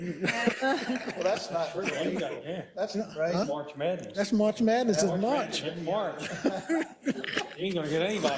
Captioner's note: laugh